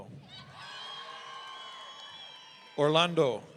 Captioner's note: audience cheering